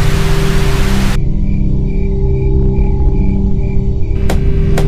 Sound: TV static; possibly evil crickets chirp

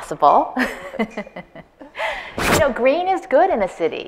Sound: laughs

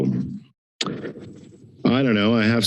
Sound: tongue clicks

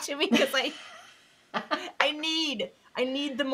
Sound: both laughing

